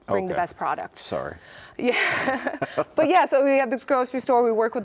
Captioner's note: laughs